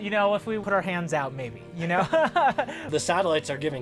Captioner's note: laughs